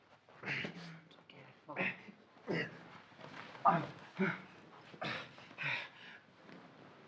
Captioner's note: Solent grunting continuing